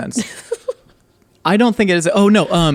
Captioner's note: laughing